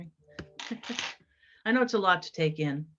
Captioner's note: laughs